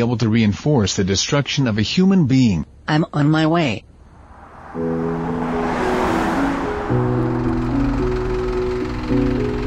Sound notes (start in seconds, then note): 4.0 car pulling in